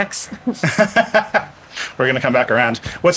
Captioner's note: laughing